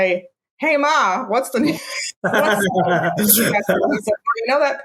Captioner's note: laughs